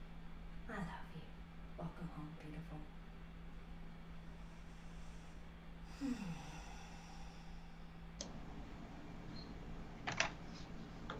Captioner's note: deep breath in, and out